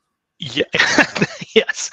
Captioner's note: laughs